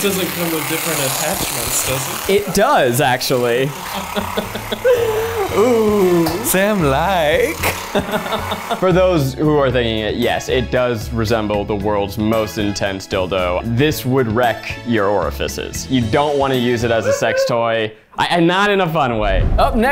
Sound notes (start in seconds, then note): 3.6 laughing